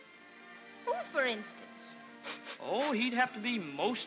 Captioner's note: sniffling